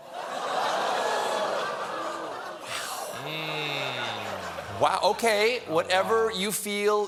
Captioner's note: audience reacts